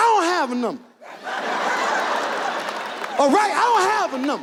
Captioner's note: audience laughs